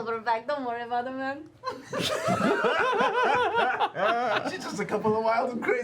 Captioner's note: laughter